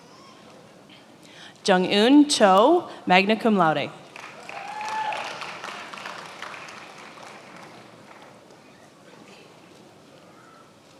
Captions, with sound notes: Jungeun Cho, magna cum laude. (attendees applauding)